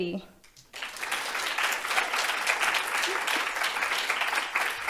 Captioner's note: audience applauding